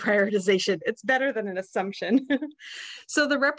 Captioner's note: chuckles